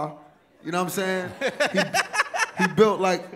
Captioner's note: laughs